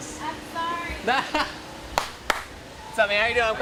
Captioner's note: claps